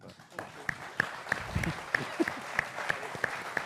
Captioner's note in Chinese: 掌聲